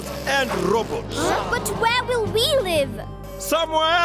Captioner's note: gasping